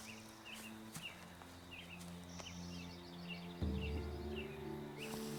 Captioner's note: footsteps thudding; curious music